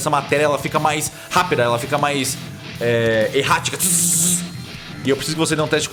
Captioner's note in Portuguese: Choque elétrico